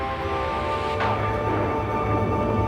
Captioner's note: thunderclap